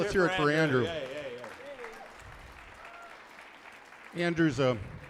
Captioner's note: audience applauds